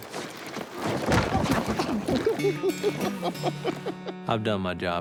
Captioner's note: crashing